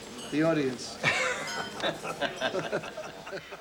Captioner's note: laughter